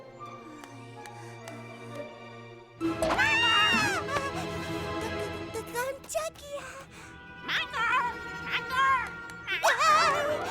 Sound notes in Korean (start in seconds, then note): 3.1 비명; 9.5 비명